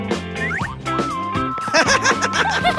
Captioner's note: laughing